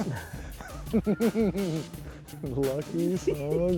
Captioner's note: men laugh